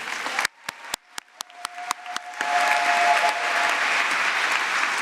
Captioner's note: applause